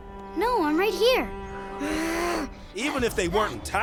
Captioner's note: groaning